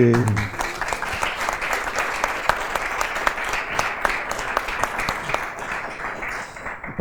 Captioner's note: applause